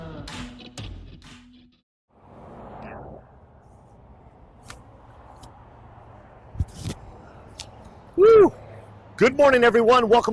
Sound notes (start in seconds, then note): 0.3 country music; 2.1 cars driving